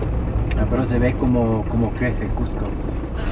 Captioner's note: in Spanish